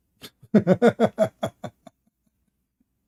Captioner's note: Ketawa